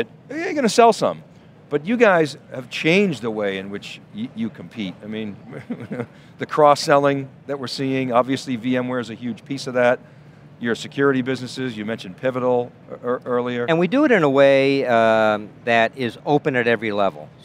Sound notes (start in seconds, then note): 5.4 giggles